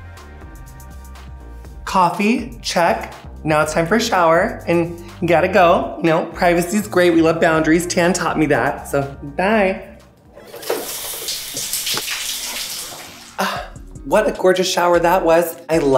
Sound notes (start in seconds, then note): 10.2 water flowing